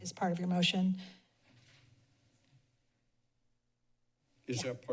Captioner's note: silence